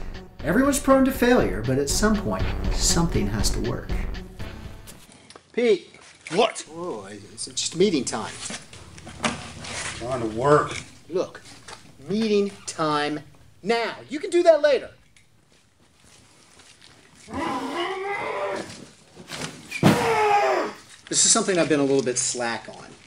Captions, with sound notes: Everyone is prone to failure, but at some point something has to work. Pete. What?! Whoa, it's just meeting time. I'm trying to work Meeting time now, you can do that later. [Screams] This is something I've been a little bit slack on.